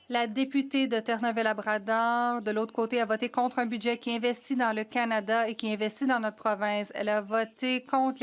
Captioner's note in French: voix de l'interprète